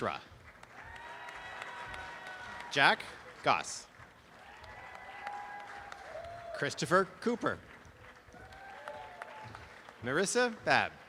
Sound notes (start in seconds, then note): 0.3 applause and cheering; 3.9 applause; 7.7 applause